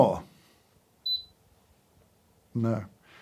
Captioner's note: scale beeping